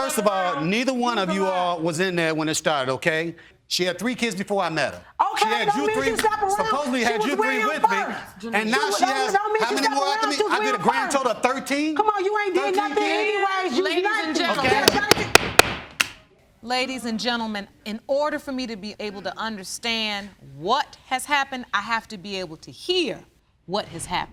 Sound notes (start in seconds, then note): 14.8 banging gavel